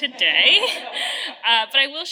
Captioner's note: audience laughing